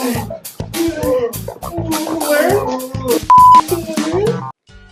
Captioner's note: moaning and yelling intensifies